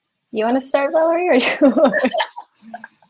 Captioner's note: laughs